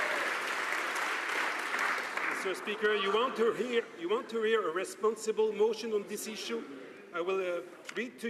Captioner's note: some Applause